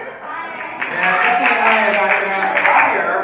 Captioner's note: cheering